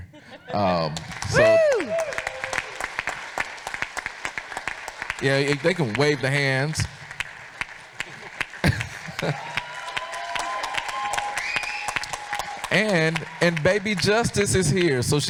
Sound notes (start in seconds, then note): 0.3 audience applauds; 9.0 audience cheers